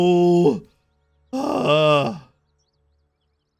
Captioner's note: sighs